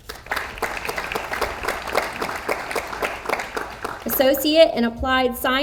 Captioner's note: audience applauds